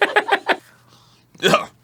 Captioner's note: big sniff